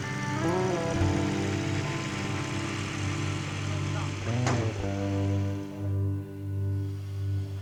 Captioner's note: machines humming; tranquil music